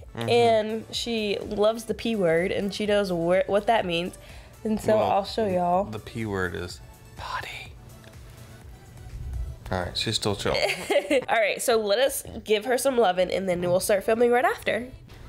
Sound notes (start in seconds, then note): 7.4 in a whisper